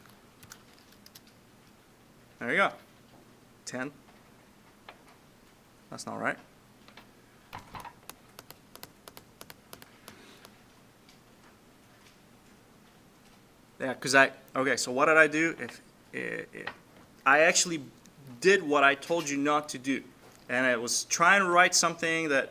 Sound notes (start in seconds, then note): 6.6 clicking Sounds